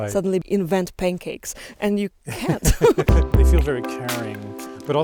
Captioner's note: both laughing